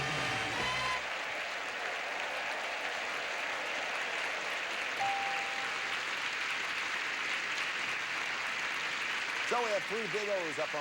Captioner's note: audience applauding